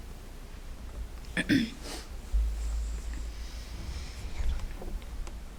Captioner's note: person clearing throat